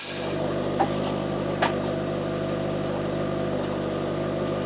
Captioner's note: forklift engine rumbling